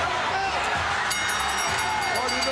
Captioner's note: crowd cheering; bell ringing